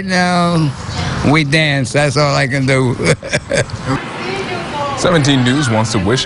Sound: laughs

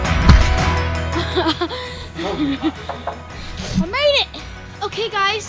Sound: laughs

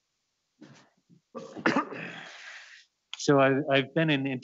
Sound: coughs

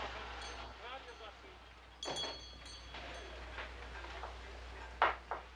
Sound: doorbell tinkling

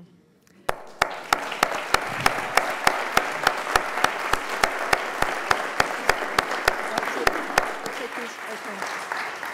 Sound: applause

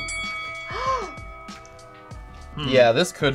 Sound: bell dings; gasps

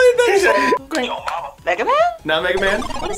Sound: buzzer

